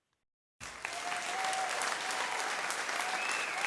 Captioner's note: crowd cheers